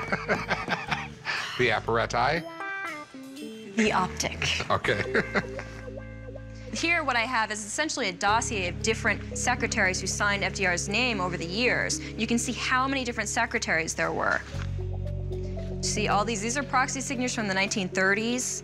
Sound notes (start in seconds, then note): 3.8 laughs